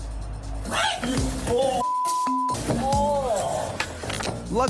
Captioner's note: screams